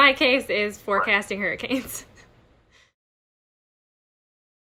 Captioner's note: giggling